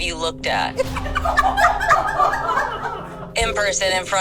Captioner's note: everyone laughing